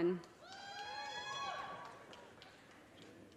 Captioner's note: audience cheers and applause